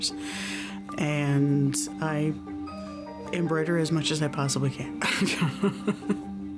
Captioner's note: laughs